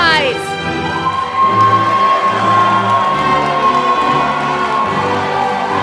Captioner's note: applause